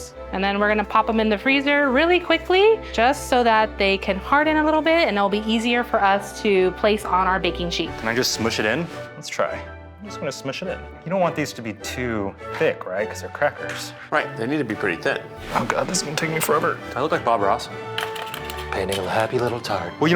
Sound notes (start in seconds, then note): none